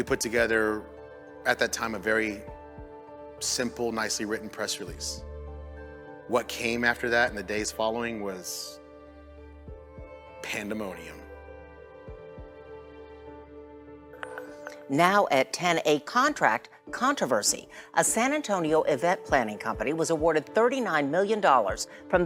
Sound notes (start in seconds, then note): 12.1 soft music; 14.2 bells chiming